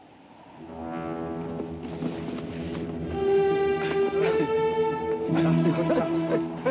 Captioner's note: tense music; Apaches chatter